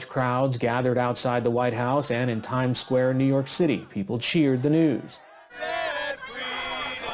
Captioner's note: cheers